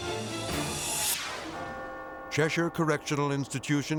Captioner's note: bell tolls